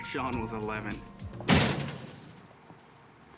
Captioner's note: door slams